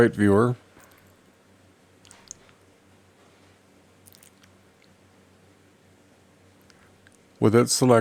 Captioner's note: silence